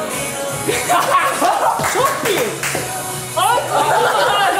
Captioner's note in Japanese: 笑い